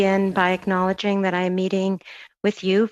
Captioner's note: speaking French